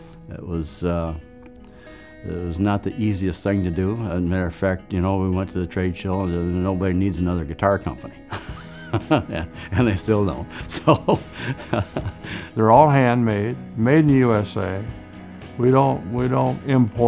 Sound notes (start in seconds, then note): 10.4 laughs